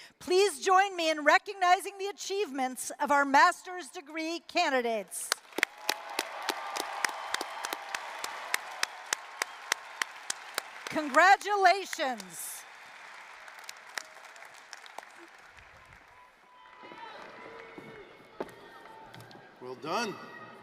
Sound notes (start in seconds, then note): 6.0 applause, cheering; 13.0 applause